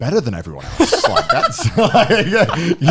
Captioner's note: laughing